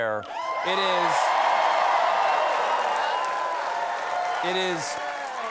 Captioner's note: cheers and applause